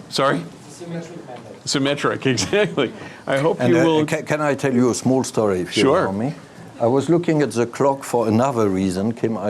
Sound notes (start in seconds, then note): 2.4 laughing